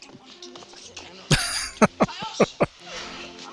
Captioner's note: laughing